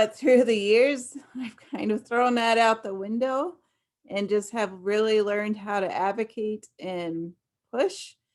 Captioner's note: laughs